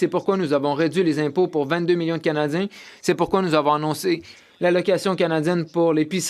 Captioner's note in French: voix de l'interprète